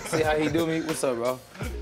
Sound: laughter

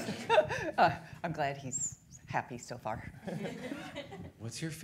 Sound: all laughing; audience chuckling

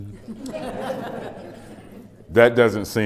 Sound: laughter

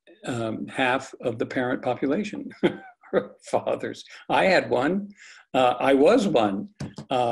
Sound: laugh

